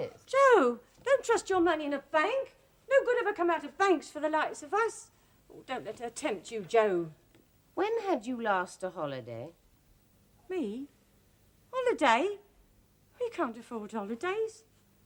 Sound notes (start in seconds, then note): none